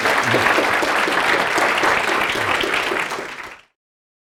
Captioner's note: applause